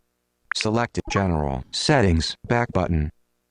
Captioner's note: electronic Voice